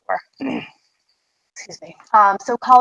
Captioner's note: clears throat